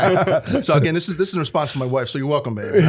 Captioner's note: laughter